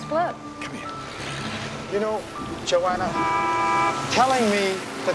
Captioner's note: car Horn Honks